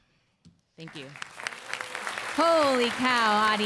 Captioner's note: applause